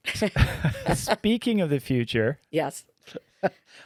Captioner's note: laughing